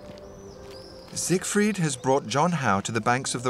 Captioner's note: voiceover